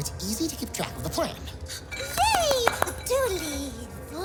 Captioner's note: clapping excitedly